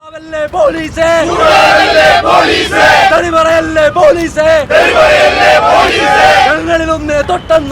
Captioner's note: protesters Sloganeering